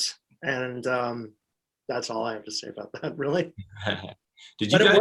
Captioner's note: chuckles